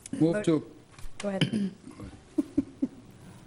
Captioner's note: woman laughs